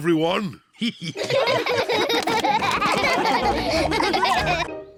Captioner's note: all laughing